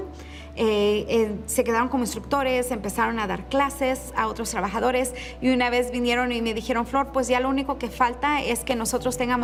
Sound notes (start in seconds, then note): 4.3 continues speaking in Spanish